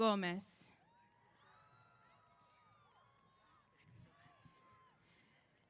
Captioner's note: cheers